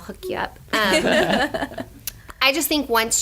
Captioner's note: laughter